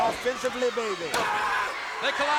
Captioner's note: wrestlers yelling